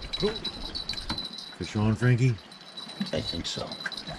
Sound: jangling

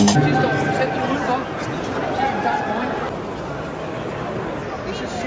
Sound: people chattering

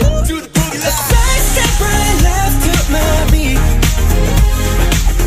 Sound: heartbeat

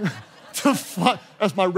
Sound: congregation laughing

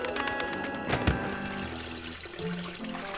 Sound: thump

